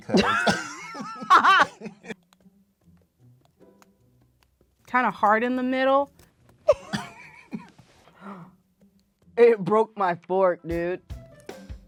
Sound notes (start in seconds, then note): 0.0 both laughing; 6.7 both laughing; 8.1 gasping; 11.7 light music